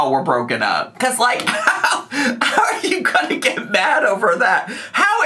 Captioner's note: laughs